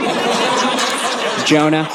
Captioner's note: audience laughing